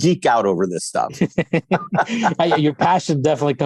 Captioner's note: laughter